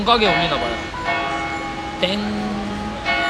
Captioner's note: the peaceful bell sound continues